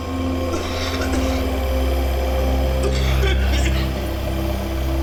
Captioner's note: coughing